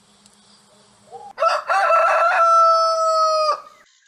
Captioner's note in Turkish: Horoz sesi